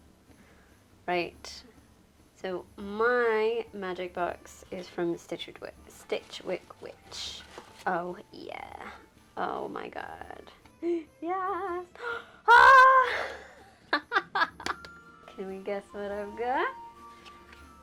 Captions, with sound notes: Right. My magic box is from Stichwi- Stitchwyck Witch. Oh yeeeah. Oh my god, yaaas- *Screams of glee* Hahaha! can you guess what I've got?